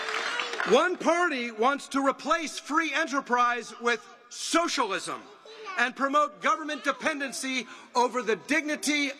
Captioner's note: applause